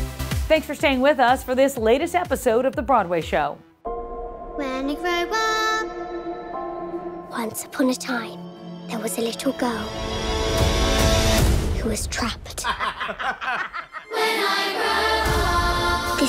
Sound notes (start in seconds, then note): 12.6 people laughing